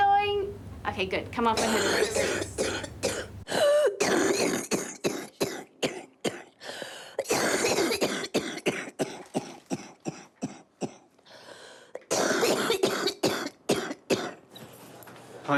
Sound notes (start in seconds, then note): 3.9 coughs, gasps, coughs; 7.0 coughs